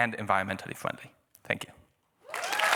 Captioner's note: applause